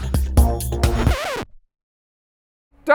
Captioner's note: record scratch